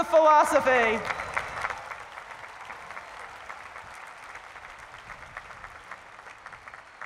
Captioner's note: applause